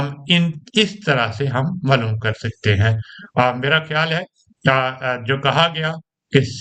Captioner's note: clears throat